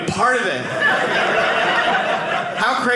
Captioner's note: audience laughing